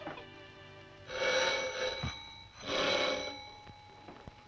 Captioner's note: doorbell ringing